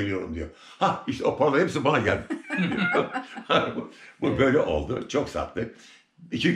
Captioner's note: laughter